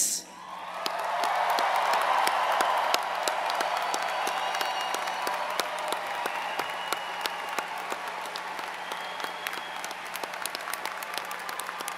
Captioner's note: applause